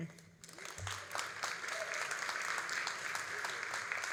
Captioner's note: all applauding